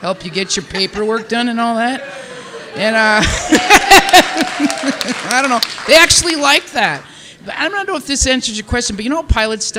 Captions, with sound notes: help you get your paperwork done and all that. (participants applauding and cheering) (laughing) I don't know. They actually like that. But I don't know if this answers your question. But you know what?